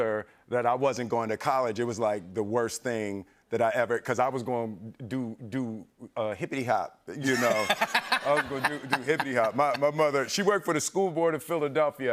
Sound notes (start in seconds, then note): 7.2 laughter